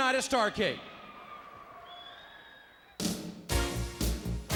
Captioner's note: audience cheers; upbeat music